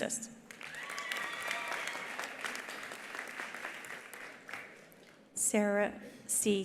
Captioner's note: attendees applauding; attendees cheering